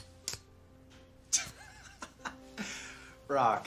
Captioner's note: laughs